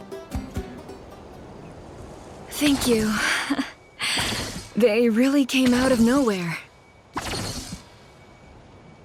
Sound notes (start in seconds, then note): 3.5 sigh